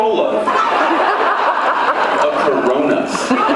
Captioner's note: laughs